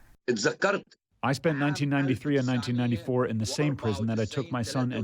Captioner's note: through translator